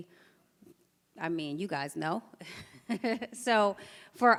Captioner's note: chuckles